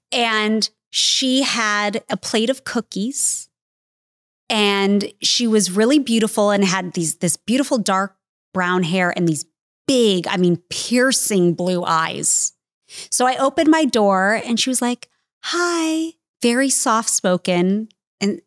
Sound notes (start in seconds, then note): none